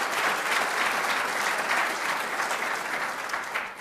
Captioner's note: applause